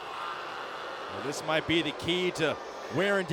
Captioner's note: audience jeers